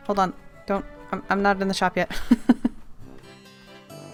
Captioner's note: laughs